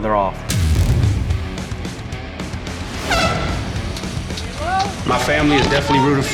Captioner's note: heavy rock music; horn honks